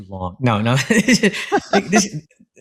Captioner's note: laugh